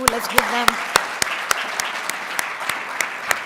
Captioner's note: audience loudly applauding